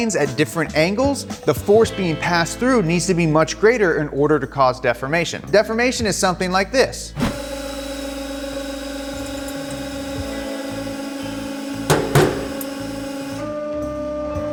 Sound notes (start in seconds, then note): 7.1 hydraulic machine running